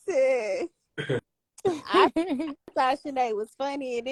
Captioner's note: laughing